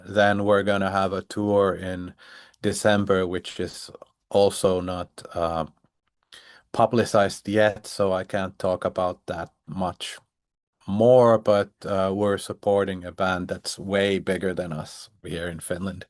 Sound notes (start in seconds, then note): none